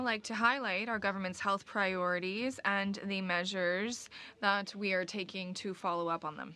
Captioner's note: speaking French